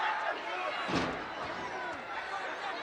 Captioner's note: metal clangs; crowd yelling